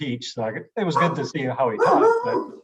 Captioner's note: dog barking